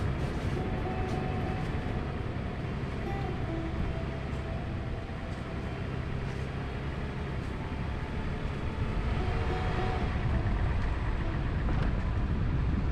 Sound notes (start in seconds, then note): 4.0 wind blowing